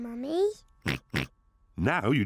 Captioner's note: oinks